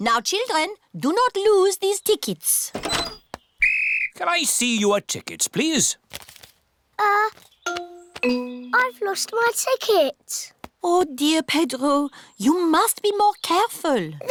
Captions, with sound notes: Now, children, do not lose these tickets. -(BLOWS WHISTLE) -Can I see your tickets, please? Uh... I've lost my ticket. Oh, dear, Pedro, you must be more careful.